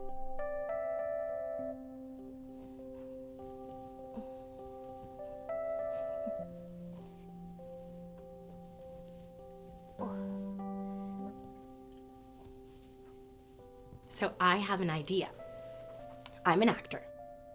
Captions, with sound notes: (somber music) (Izzy groans) So I have an idea. I'm an actor.